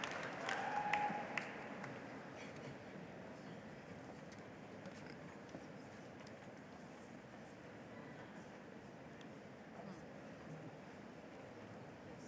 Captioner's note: applause